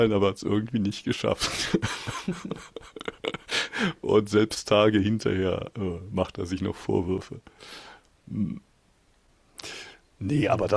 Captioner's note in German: japst